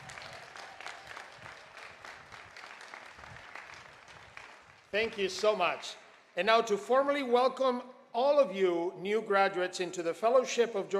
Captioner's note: applause